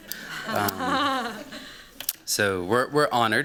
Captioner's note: laughter